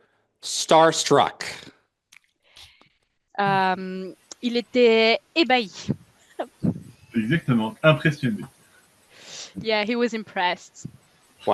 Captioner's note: translating from French